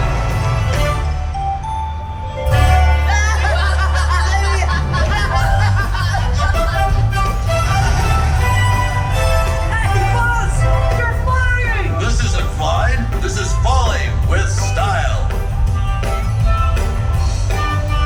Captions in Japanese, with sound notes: [笑い] F.Thisisthisis fallingwithstle